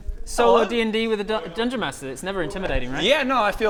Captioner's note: muttering from surplus players